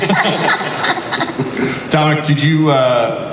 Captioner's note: audience laughter